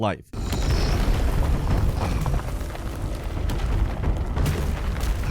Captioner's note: rocks crumbling